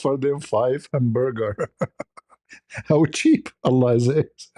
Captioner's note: ketawa